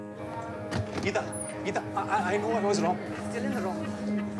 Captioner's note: Door opens